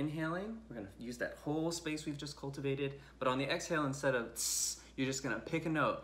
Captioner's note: hisses